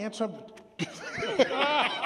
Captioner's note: laughter